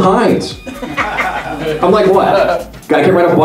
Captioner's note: laughter